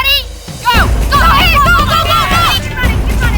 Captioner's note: ALL CASTAWAYS cheering